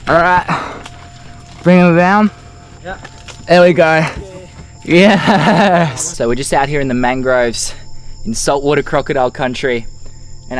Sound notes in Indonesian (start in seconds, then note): 4.9 laugh